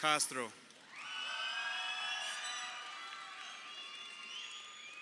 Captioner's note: crowd cheering